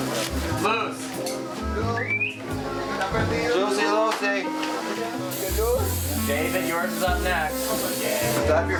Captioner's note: employee chatter